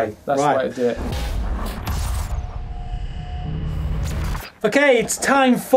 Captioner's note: electric buzzing